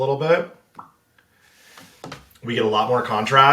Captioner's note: lips pops